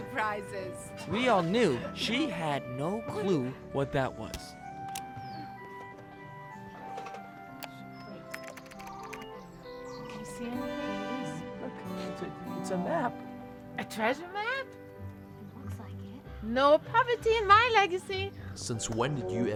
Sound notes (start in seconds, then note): 3.2 clicking noises